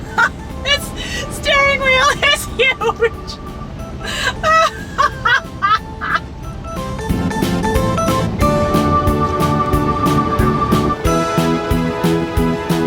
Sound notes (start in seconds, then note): 4.0 laughs; 7.6 upbeat music